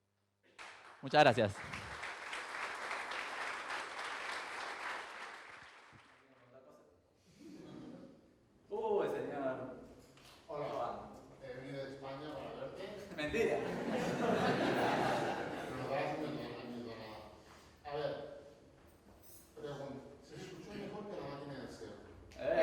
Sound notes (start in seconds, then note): 4.2 crowd claps; 13.2 crowd laughs